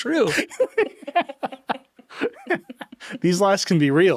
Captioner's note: group laughing; chuckles